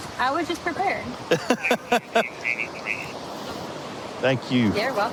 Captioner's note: laughing